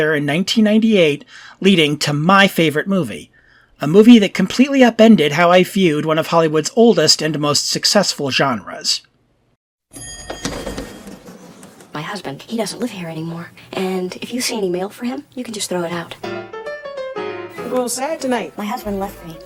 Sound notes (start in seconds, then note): 10.0 elevator dings; 15.9 jazz music